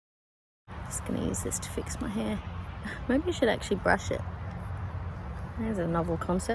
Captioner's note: scoffs